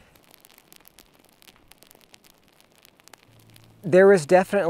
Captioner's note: fire crackling